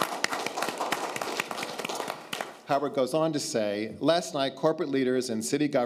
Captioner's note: applause